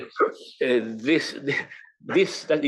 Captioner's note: laugh